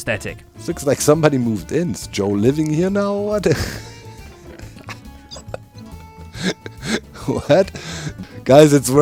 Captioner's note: laughs